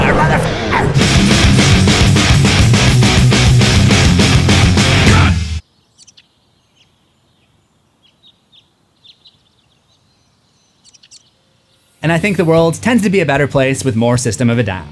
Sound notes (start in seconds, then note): 5.5 birds chirping